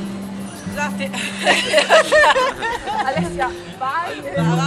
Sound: laughing

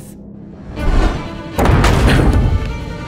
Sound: falling, impact on deck below

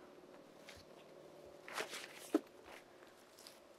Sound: paper crinkling

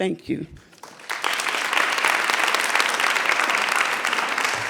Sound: audience applauds

